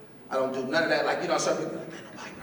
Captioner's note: whispering